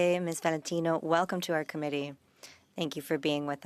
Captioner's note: speaking French